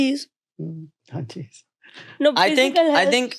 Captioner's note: chuckles